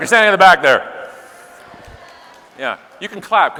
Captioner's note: scattered clapping